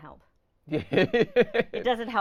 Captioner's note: laughing